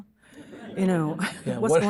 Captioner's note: audience chuckling